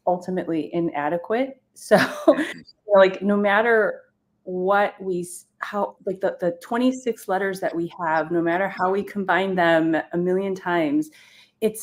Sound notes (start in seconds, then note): 2.2 chuckles